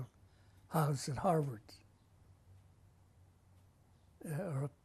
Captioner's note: pauses for 3 seconds